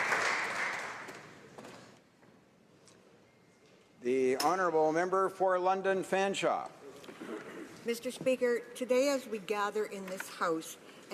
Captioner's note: applause